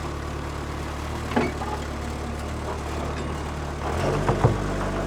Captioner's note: forklift clanks; forklift rumbles